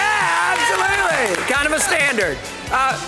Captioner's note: crowd cheers